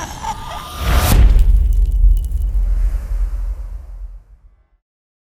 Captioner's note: impact